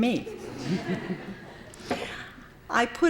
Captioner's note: laughter